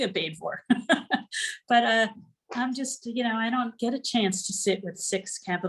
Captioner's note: laughter